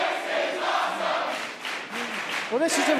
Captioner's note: fans chanting